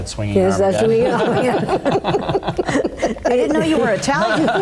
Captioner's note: all laugh